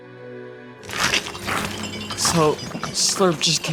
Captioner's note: slurp slurping